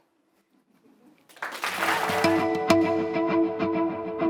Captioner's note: applause